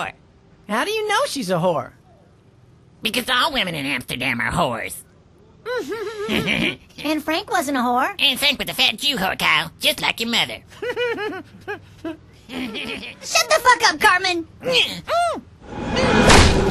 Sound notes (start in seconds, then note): 5.6 cartman laughs too; 5.6 kenny laughs; 10.6 stan laughs